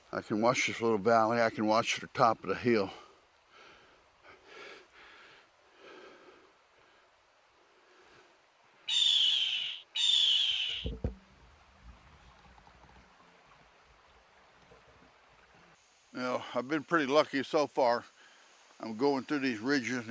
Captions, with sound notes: I can watch this little valley. I can watch the top of the hill. (bird chittering) Well, I've been pretty lucky so far. I'm going through these ridges